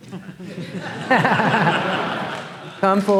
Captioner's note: laughter